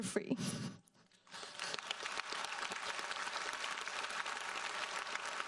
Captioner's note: audience applauds